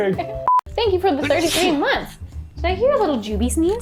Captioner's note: sneezing sound